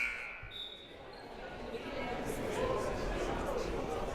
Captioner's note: whistle blaring